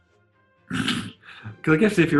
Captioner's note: sniggers